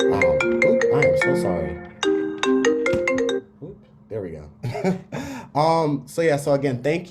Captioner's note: laugh